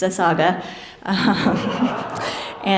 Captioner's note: laughter